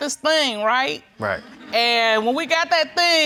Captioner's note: audience chuckles